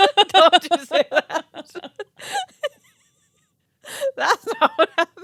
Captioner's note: both laughing